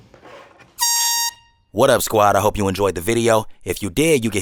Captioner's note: airhorn blows